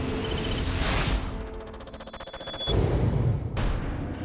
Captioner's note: rapid clacking